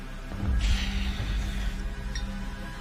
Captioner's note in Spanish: Suspiro